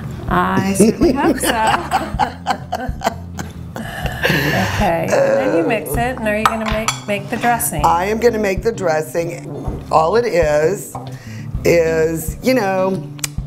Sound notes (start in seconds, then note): 0.8 laughs